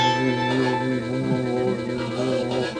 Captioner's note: orc growling in distance